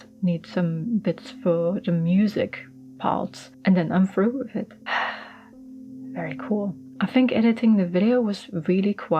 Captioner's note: sighs contentedly